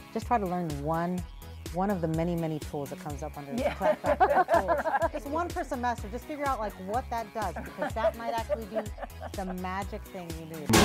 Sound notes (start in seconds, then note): 3.5 group laughing